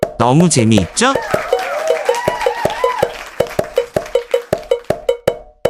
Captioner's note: clap